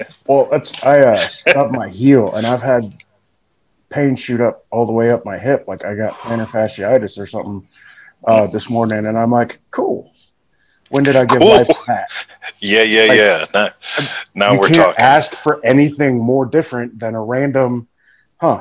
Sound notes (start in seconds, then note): 11.0 chuckles